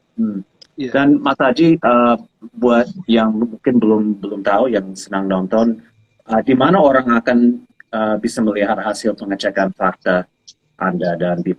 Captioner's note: non-english speech